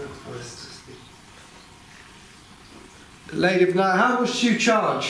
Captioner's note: none